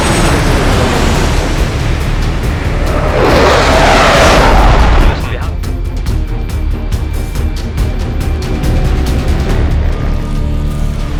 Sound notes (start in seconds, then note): 0.1 planes flying; 5.1 radio chatter; 5.1 speaking german